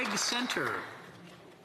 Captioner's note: some Applause